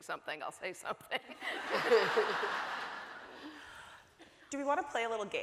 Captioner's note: audience laughing